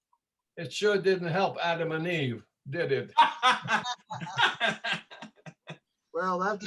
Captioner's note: laughter